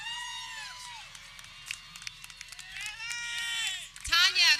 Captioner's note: people cheering